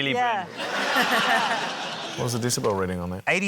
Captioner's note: laughter